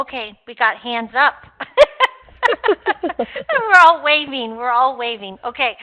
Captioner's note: laughs